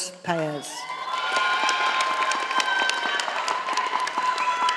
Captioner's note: audience applauding